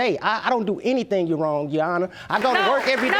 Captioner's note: audience applauding